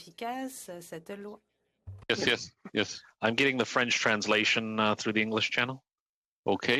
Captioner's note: speaking French